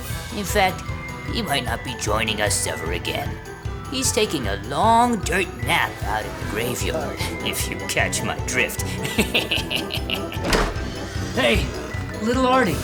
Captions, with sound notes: In fact, he might not be joining us ever again. He's taking a long dirt nap out in the graveyard, if you catch my drift. [LAUGH] Hey, Little Artie.